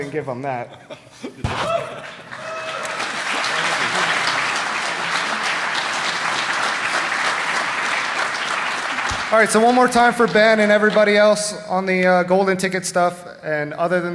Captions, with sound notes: going go ahead and give him that. (Applause). >>> One more time for Ben and everybody else on the golden ticket stub. Other than that,